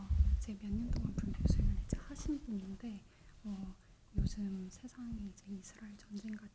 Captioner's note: translator speaking in Korean